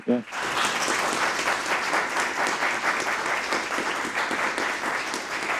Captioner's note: audience applauding